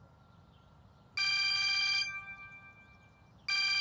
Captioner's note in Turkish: Telefon çalıyor